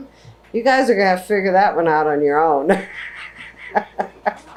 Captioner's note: laughs